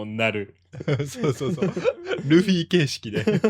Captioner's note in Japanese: 笑い